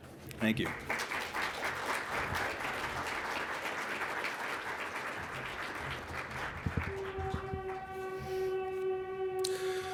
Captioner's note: applause